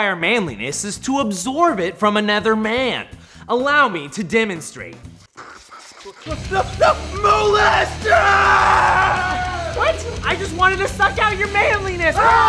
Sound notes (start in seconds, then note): 5.0 makes slurping noises